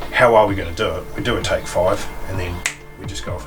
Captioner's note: fingers snapping